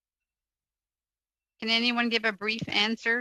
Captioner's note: speaking French